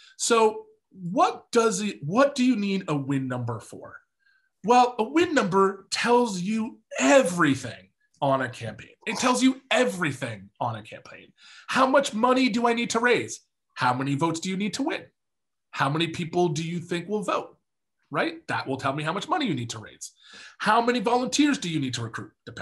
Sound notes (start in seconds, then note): none